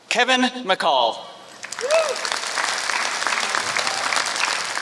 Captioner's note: applause